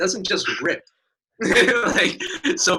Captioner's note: laughing